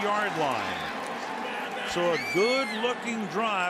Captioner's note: pa announcement